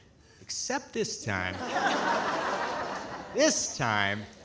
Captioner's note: audience laughing